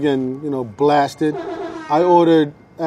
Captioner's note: blasting